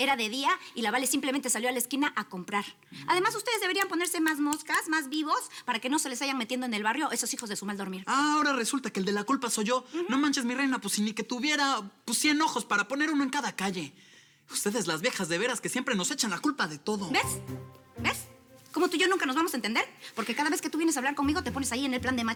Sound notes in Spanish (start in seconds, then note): none